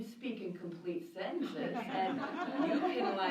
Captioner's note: laughter